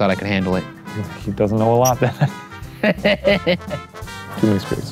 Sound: laughing

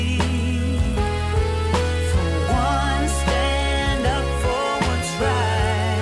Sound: interfering

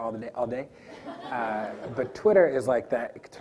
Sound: audience laughs

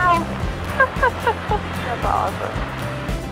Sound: laughs

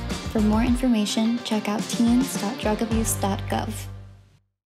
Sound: female voice over

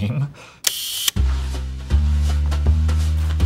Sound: sound of camera shutter clicking

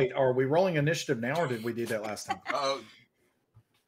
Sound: laughing

